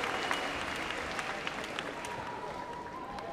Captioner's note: applause